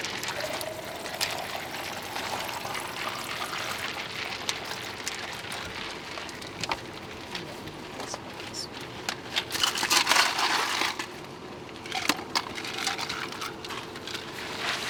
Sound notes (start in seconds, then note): 0.2 water sploshing; 9.9 loud clatters